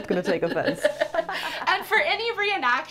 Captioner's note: laughter